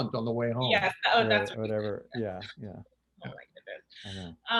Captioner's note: laughs